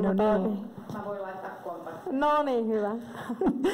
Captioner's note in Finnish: Naurahtaa